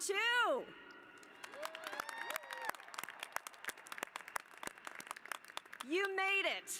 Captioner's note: applause